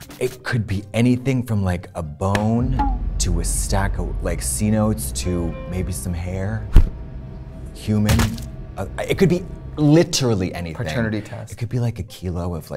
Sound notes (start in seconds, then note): 8.2 body thuds